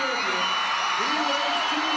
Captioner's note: audience cheering